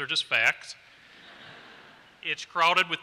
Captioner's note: laughter